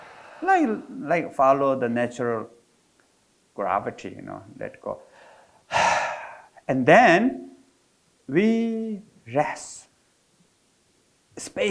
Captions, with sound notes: Like follow the natural gravity, let go. (exhales) And then we rest, space in between the breath.